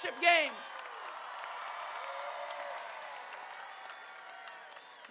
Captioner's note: crowd cheering